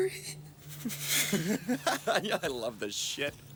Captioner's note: Graham laughs